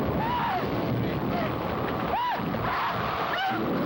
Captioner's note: screaming